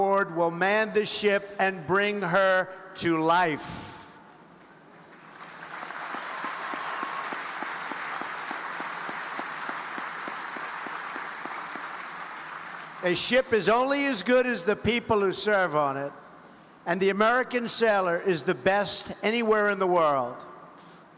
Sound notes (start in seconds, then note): 5.0 audience applauding